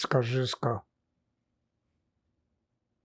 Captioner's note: pauses 6 seconds